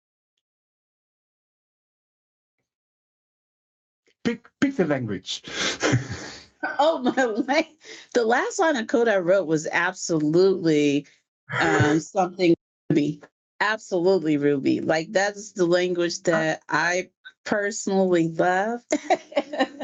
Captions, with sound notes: - Pick a language (laughs). - The last line of code I wrote was absolutely something in Ruby, absolutely Ruby. Like that's the language that I personally love. (laughs)